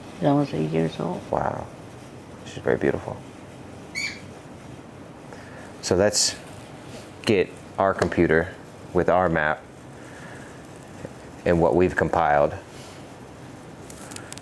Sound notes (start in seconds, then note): 3.9 bird squawking